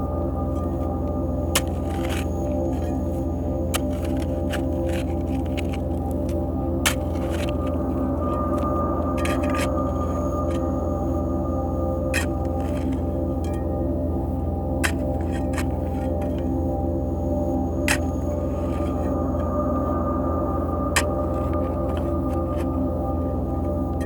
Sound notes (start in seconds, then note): 0.1 suspenseful music continues; 9.4 shovel scraping; 19.0 suspenseful music continues; 20.9 shovel scraping